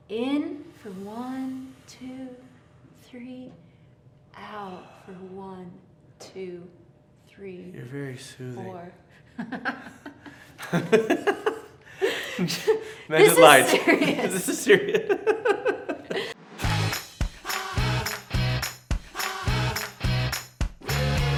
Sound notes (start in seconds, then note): 10.5 laugh; 17.2 upbeat music